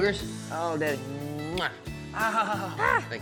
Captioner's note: smooch